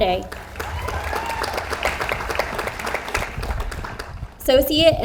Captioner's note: audience applauds